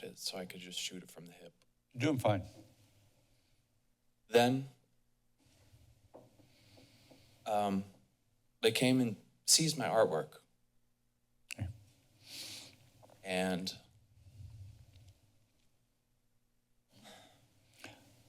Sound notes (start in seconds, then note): 6.3 breaths; 15.5 silence